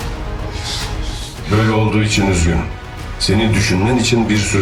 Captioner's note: unknown Echo